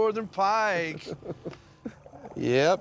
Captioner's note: chuckles